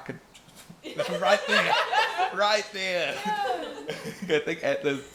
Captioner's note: laughter